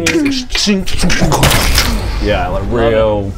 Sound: ch-chink-dchunk-BOOOSCH

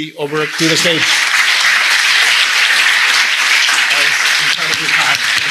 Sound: audience clapping

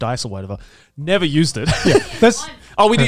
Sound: chuckles

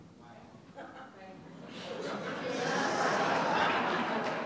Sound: audience laughing

